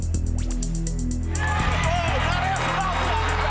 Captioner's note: crowd cheering